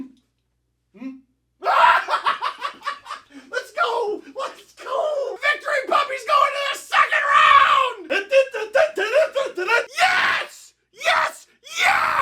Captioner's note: laughter